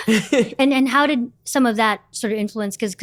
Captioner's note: laughter